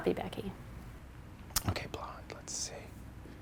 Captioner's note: whispers